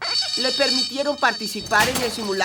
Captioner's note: ringing